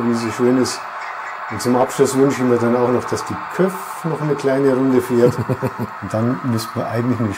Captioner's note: laughs